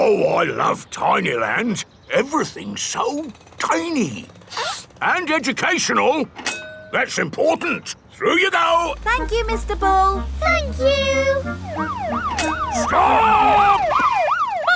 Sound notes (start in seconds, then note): 4.5 sniffs; 12.1 siren wailing